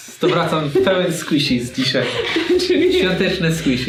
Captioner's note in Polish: śmiech